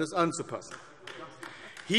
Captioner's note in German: Beifall AfD